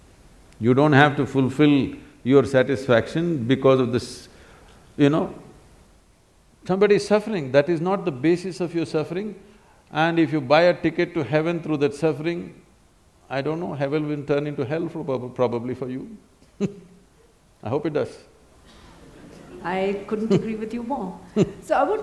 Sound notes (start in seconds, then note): 16.5 laughs; 18.9 laughter; 21.3 Sadhguru Laughs